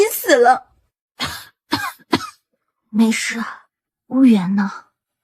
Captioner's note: coughs